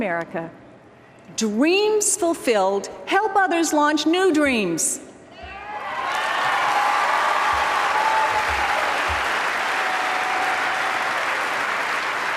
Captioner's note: applause